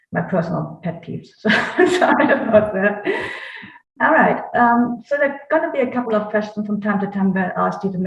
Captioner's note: laughs